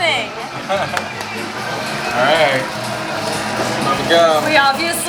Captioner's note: laughs